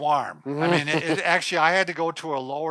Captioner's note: laughing